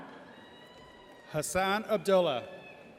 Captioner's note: audience cheers